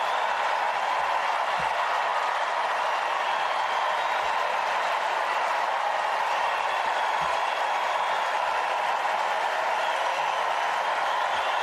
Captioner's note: cheers and applause